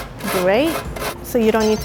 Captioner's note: grating